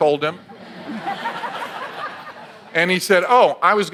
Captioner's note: audience laughs